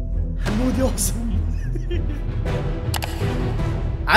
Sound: laughing

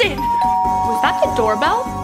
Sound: doorbell ringing

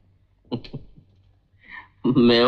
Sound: chuckles

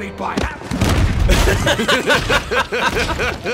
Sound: thumps repeatedly into ground

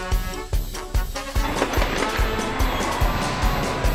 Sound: sfx: explode

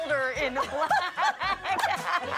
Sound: laughter

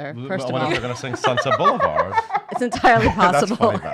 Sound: laughing

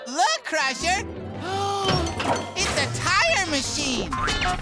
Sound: gasping

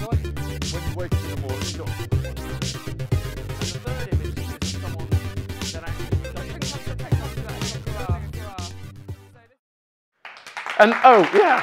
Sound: applause

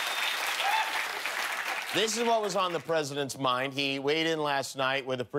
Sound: cheers and applause

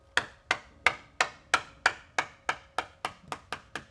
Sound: hammer taps

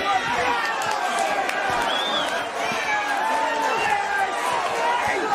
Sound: crowd cheering and clapping

